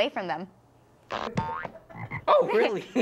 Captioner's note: boing!; laughs